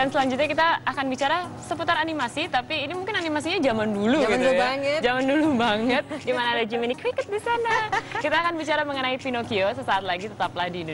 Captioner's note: non-english speech